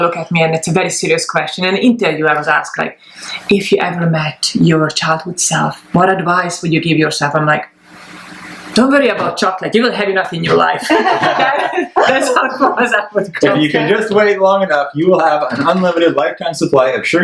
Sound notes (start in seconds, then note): 10.4 laughs